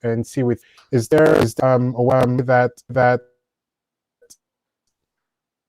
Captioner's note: signal distorts speaker